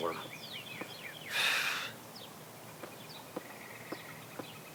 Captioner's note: birds chirping